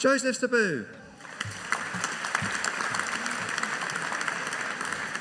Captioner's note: audience applauding